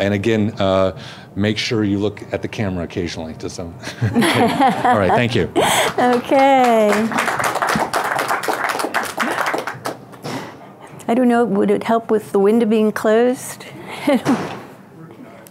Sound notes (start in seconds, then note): 4.1 laughs; 5.8 audience applauds